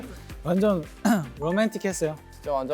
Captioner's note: coughing